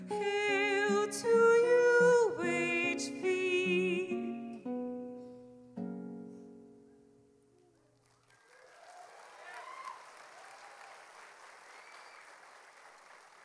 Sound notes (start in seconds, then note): 7.9 audience applauding